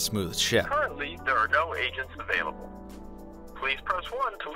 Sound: voiceover

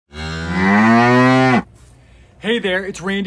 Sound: cow mooing

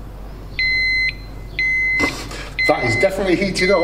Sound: beeping noise

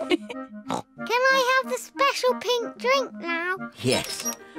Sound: all laugh; snorts

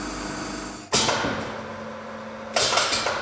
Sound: metal clanking

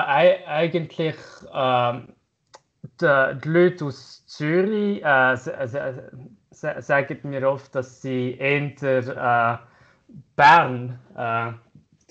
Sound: swiss German dialect from Bern

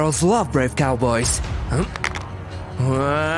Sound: groaning

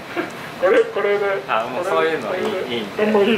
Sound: laughs

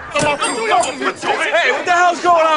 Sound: indistinct shouting

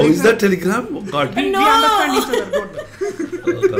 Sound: laughs

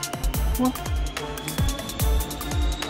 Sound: none

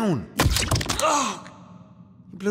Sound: blaster shot

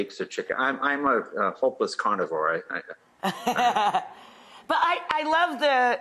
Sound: laughs

